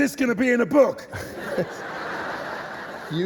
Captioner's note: laughter